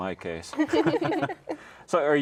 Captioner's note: all laugh